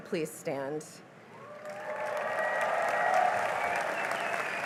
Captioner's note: cheering and applause